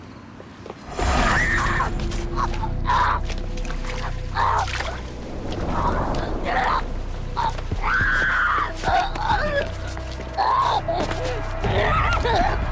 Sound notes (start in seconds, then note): 1.0 screams, groans; 8.8 screams